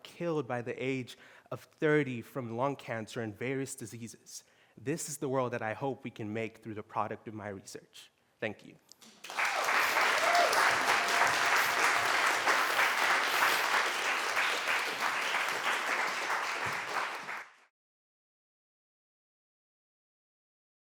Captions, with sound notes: killed by the age of 30 from lung cancer and various diseases. This is the world that I hope we can make through the product of my research. Thank you. [APPLAUSE]